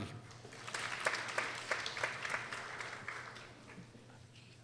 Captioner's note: people applauding